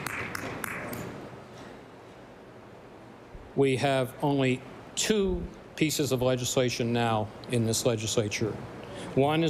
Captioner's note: applause